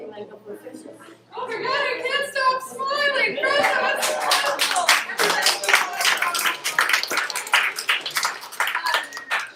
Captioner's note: applause